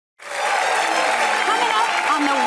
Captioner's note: audience cheering